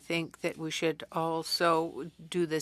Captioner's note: speaking French